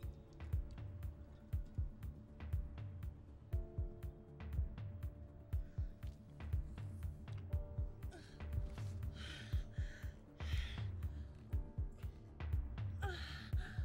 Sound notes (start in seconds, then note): 7.8 sultry electronic music; 8.0 groaning